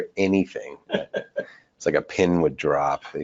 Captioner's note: person laughing